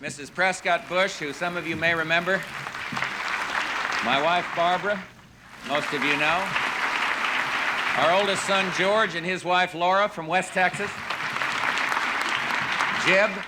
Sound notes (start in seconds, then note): 2.8 applause; 6.4 applause; 10.4 applause